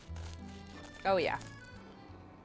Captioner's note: scraping